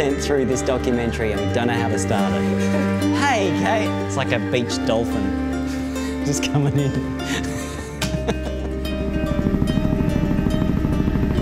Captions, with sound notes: through this documentary and we don't know how to start it. (laughs) Hey Kate! It's like a beached dolphin just coming in. (laughs) [Helicopter propellers]